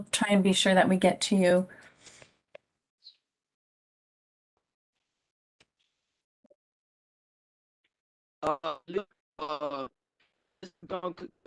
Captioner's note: distorted audio